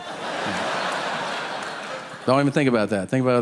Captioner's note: audience laughing; Tom chuckling